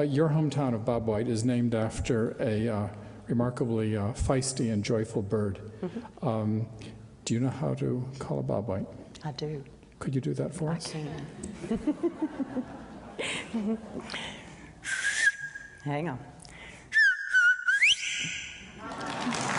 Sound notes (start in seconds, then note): 14.9 bird call; 18.8 applause